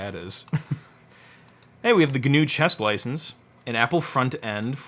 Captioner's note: laughs